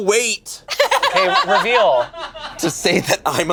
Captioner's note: laughs